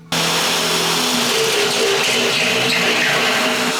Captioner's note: drill grinding